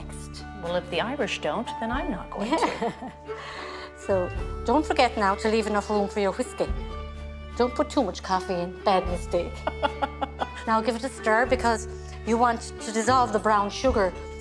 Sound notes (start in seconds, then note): 2.4 chuckles; 9.6 laughs